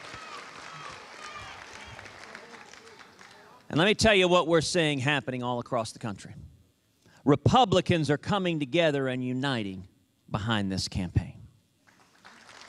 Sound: applause

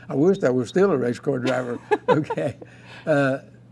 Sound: laughing

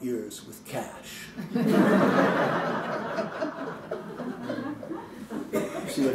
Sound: laughter

